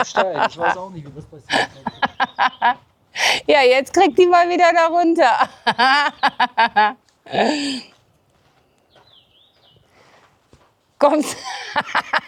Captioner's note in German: gelächter; gelächter; japst; gelächter